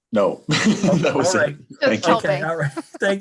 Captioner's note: laughing